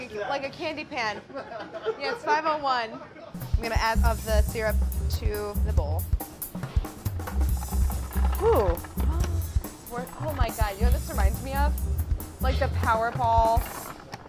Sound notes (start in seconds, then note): 8.9 gasps